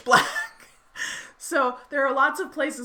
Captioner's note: laughing